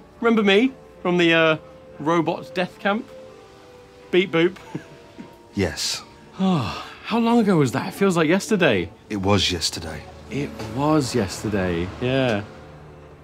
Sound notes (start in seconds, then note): 4.6 laughter; 6.1 exhales fondly